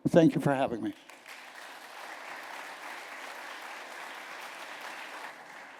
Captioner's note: applause